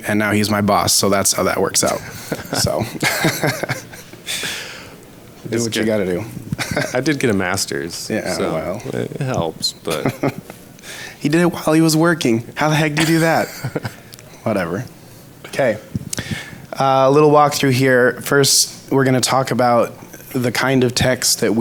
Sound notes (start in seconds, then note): 1.8 laughs; 9.8 laughs; 12.8 laughs; 16.0 smacks lips